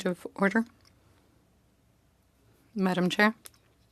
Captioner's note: speaking French